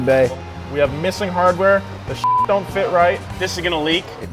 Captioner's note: beep